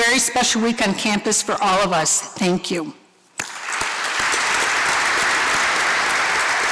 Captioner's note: applause